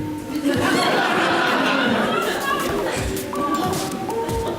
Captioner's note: audience laughs